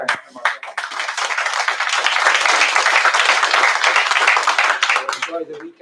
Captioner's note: applause